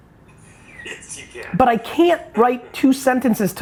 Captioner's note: laughing